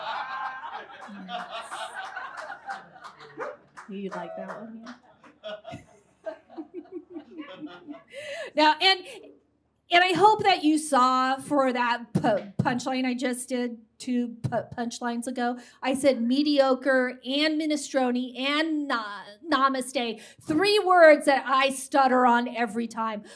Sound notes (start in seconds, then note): 0.0 audience guffaws; 6.2 chuckles